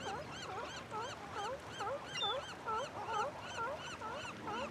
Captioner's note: seals barking